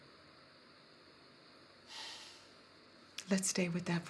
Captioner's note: exhales